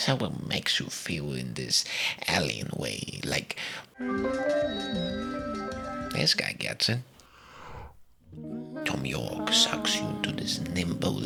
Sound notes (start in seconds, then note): 3.7 pretty scary noises; 7.2 sounds of sucking you into a wormhole